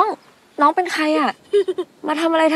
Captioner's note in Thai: เสียงหัวเราะ